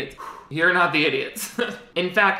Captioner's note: laughs